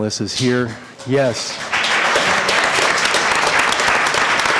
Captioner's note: applause